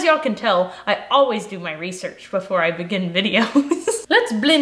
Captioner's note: laughs